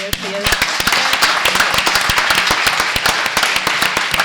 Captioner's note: applause